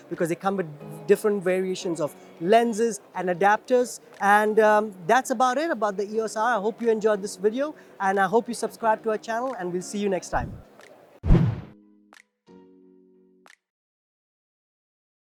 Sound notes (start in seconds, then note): 11.2 whooshing; 11.4 playful music